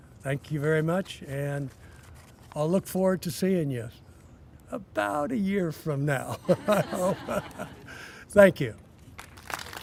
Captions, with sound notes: I THANK YOU VERY MUCH. AND I'LL LOOK FORWARD TO SEEING YOU ABOUT A YEAR FROM NOW. [ LAUGHING ] THANK YOU.